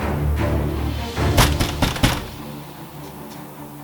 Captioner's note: hard knocking on door